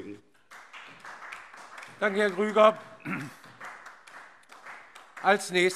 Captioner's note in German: Beifall SPD